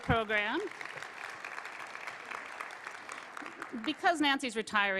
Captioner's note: applause